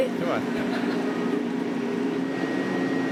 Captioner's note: laughter